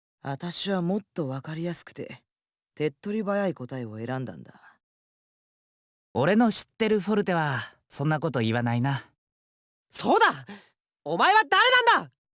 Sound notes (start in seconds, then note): 5.5 silence